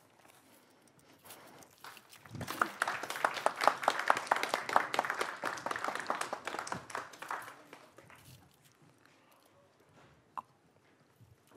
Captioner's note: applause